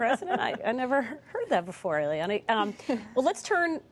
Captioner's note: laughter